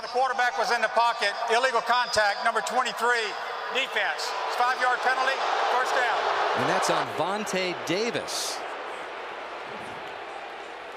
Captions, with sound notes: While the quarterback was in the pocket, illegal contact, number 23, defense. 5-yard penalty. First down. [booing] And that's on Vontae Davis.